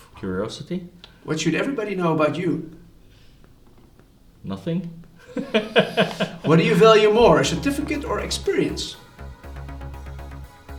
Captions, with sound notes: Curiosity. What should everybody know about you? Nothing. (laughs) What do you value more, a certificate or experience?